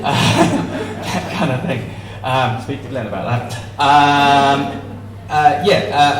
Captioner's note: laughter; laughter